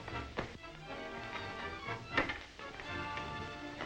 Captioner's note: feet shuffle